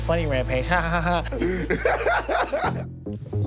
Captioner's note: laughs